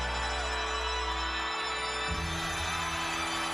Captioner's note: crowd cheers